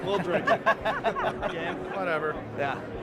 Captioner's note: laughing